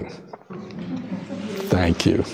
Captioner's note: laughter